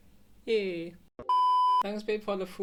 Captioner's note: sine tone chimes